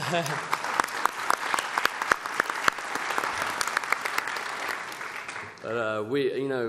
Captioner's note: applause